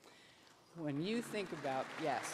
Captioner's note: applause